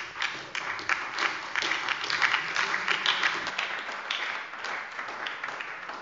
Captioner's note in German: Beifall bei der SPD und der LINKEN